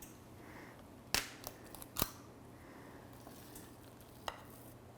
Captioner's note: cookie scoops clinks